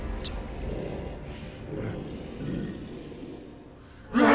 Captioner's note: growling; roaring